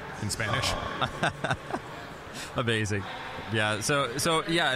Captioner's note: laughing